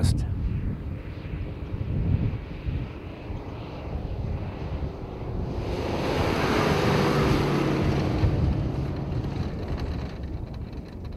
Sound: vehicle sounds

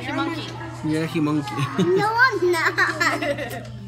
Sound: laughs

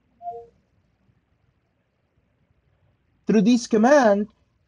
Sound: phone beeps

